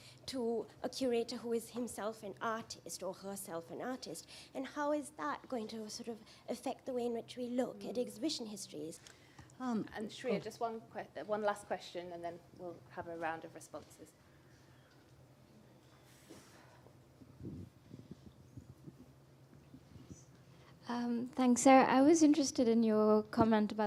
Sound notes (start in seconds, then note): 14.7 pause